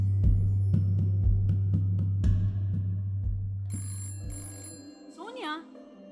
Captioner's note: telephone rings